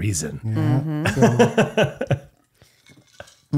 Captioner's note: laughing